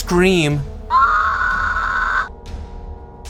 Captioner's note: stock scream